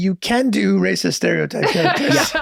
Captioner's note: laughs